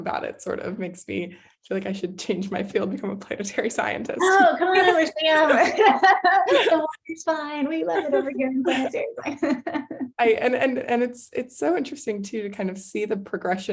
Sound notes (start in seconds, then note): 4.2 laughs